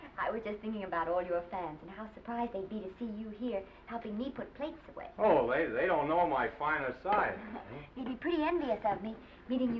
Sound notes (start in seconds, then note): 7.4 Esther chuckles